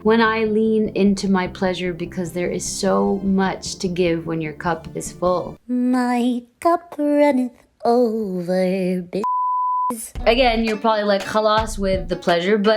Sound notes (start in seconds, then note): 9.2 beep